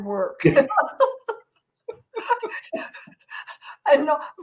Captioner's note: both laugh